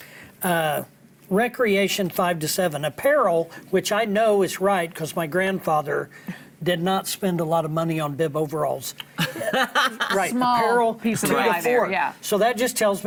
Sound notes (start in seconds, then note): 9.2 laughing